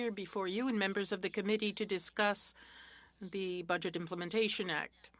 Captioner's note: speaking French